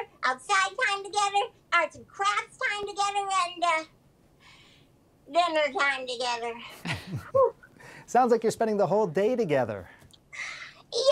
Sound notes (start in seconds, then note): 6.8 laughs